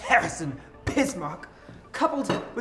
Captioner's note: pretentious cough